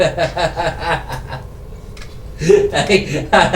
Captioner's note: laughing